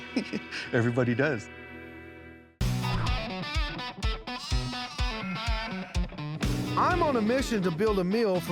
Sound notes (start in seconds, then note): 0.0 chuckling; 4.2 baaing